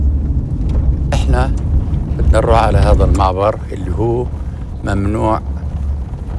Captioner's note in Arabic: يتحدث لغة أجنبية